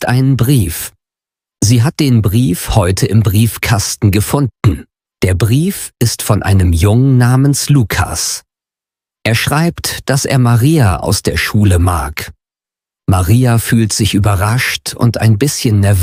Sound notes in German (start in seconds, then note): 4.6 räuspern